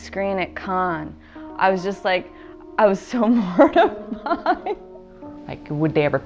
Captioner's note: laughing